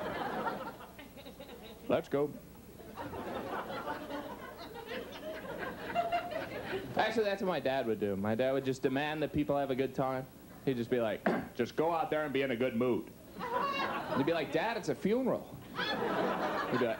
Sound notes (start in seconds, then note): 2.8 audience laughs; 11.2 clears throat; 15.7 audience laughs